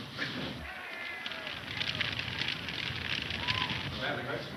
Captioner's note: men shouting